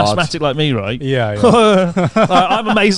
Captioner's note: laughing